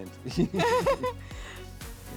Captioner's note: laughing